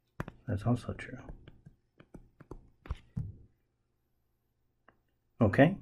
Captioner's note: tapping Sounds